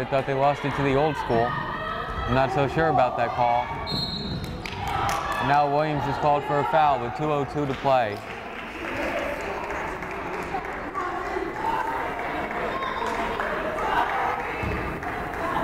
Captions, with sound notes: thought they lost it to the Old School. I'm not so sure about that call. (whistle blows) And now Williams is called for a foul with 2:02 to play. (crowd applauding)